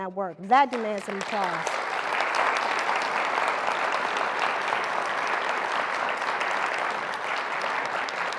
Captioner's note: applause